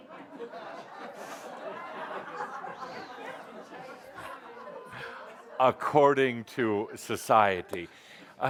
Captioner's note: laughter